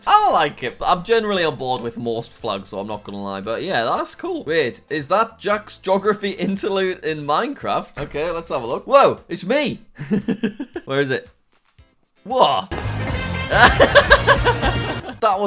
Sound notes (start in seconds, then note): 10.0 laughs; 12.3 upbeat music